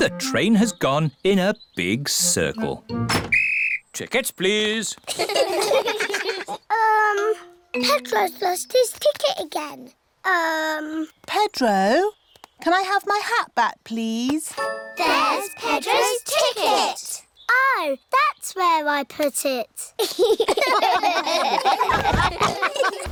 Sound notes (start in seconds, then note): 3.2 blows whistle; 5.0 all laugh; 20.0 all laugh